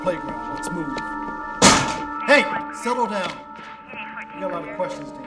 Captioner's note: bangs locker